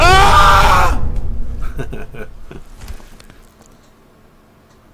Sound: screams

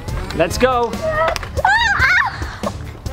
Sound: darts thump against body

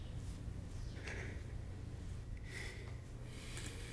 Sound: breathing shakily

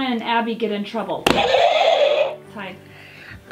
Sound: buzzer sounds

